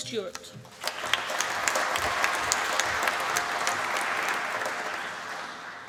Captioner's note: applause